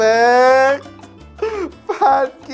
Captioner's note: giggles